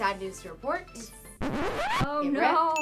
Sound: disc scratching

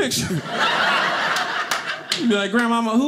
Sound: audience laughing

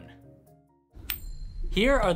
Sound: coin flipping

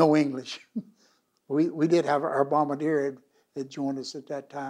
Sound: laughs

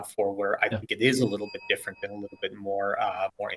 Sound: bell dings

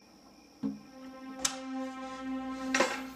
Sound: ominous music playing; cricket chirping; thump; ominous music playing

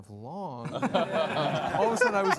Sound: all laughing

